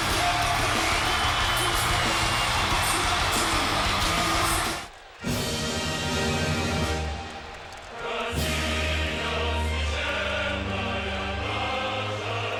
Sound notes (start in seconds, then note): 5.2 lively Russian music; 5.5 crowd cheering